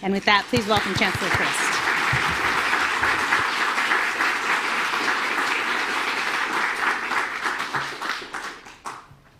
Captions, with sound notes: And with that, please welcome Chancellor Christ. (audience applauding)